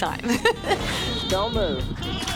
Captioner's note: chuckles